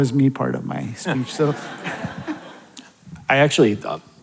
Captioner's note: audience laughing